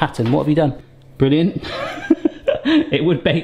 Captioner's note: laughing